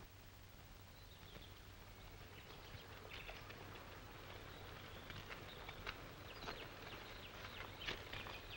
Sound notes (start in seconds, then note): 0.8 birds chirping